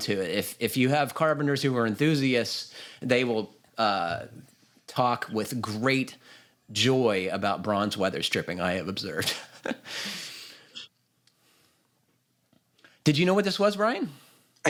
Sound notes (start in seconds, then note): 9.2 laughs